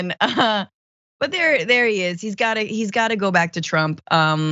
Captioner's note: laugh